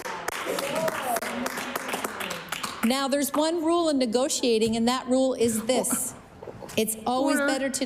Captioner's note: applause